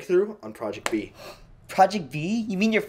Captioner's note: gasp